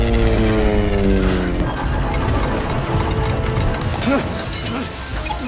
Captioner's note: thunder rumbling; high-tension music; Victor grunting